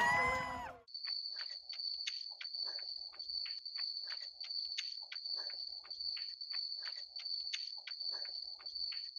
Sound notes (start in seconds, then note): 0.0 crowd cheering; 1.4 crickets chirping; 2.4 runner panting; 3.4 footsteps shuffling